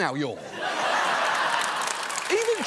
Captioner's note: audience laughs, applauds